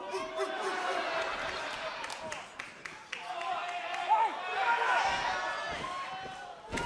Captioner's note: crowd chatter